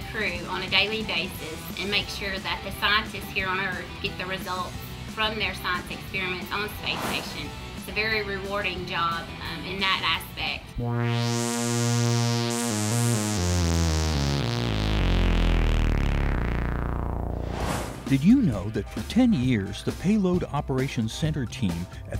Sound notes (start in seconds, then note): 10.8 sound Effects